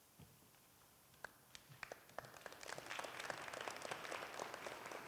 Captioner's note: applause